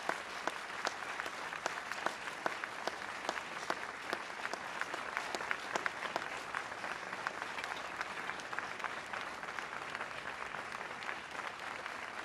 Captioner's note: applause